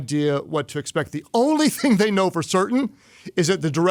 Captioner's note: laughs